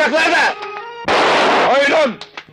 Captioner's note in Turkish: Silah sesi